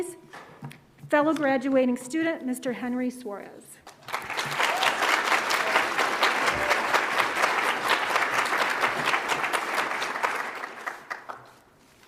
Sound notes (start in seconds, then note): 3.9 audience applauds; 4.1 audience cheers